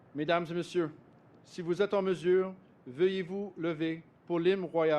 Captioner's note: speaks French